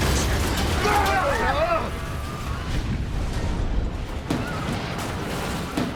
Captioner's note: passengers screaming and grunting